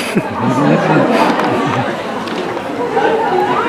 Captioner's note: laughter